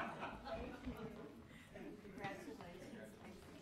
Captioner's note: low chatter